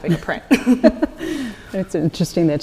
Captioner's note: panelists laughing